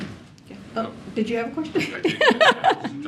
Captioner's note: laughter